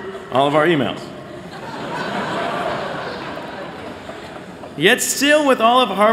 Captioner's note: laughter